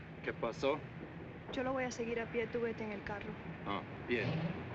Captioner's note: speaking spanish